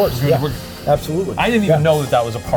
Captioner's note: dramatically exhaling